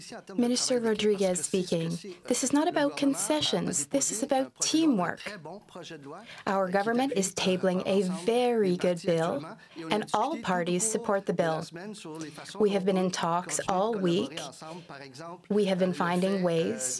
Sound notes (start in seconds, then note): 9.8 speaking French